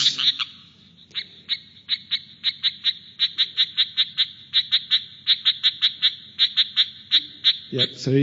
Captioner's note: sound of striped rocket frog calling